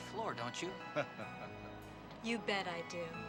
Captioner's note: Captain laughing